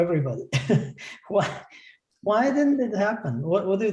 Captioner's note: laughter